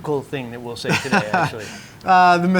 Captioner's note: laughing